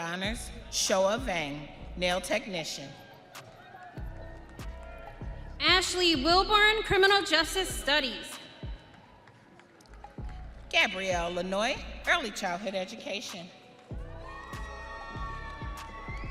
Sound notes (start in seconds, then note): 3.0 audience cheering